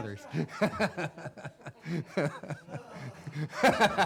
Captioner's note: laughs